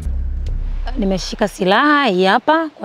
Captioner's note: she speaks her language